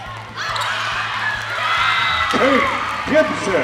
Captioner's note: team and audience cheering; voiceover